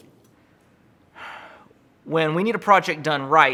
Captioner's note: sighs